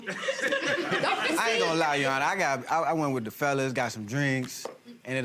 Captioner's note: gallery laughs